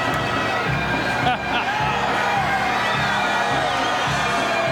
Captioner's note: chuckles; audience cheering; dramatic bagpipes music